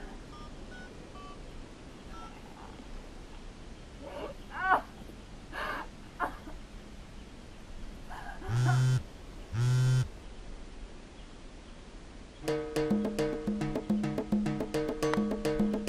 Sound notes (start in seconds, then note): 1.1 buttons beeping; 9.5 phone vibrating; 12.4 upbeat music